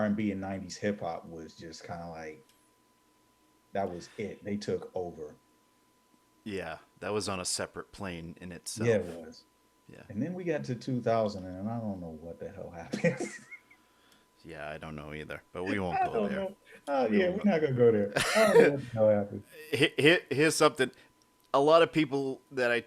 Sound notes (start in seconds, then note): 12.8 laughing